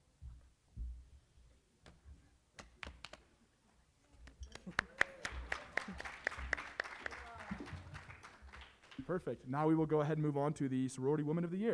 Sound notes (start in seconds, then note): 4.5 applause